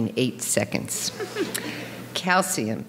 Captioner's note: audience chuckling